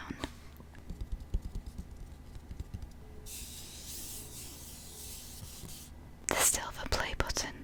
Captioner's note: tapping